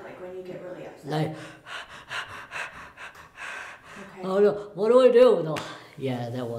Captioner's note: makes heavy breathing sounds